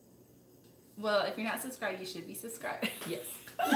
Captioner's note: laughing